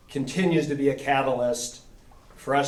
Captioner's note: none